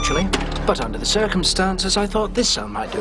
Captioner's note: police siren stops